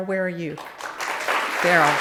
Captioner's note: audience clapping